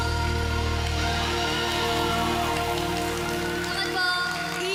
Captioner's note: applause